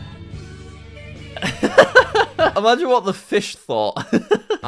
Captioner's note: laughs; laughs